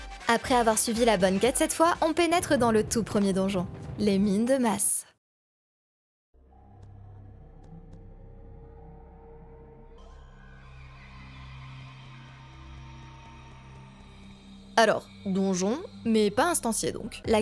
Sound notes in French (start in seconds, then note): 6.4 Ambiance de grotte qui résonne